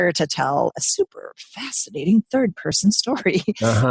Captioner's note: laughs